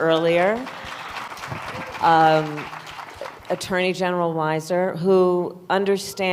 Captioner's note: applause